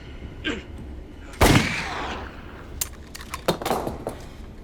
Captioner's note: gunshot